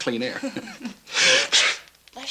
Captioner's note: both chuckling; Joe sneezes